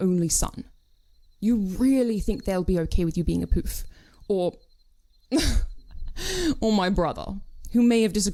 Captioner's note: he laughs